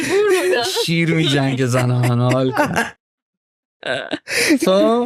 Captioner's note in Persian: خنده